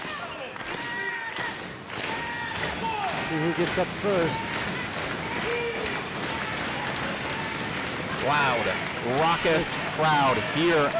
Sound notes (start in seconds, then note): 0.3 audience claps and chanting Cannon; 5.4 crowd cheering